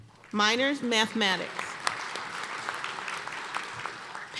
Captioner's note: applause